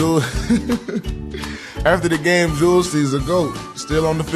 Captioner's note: laughs